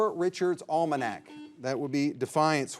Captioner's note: signal beeps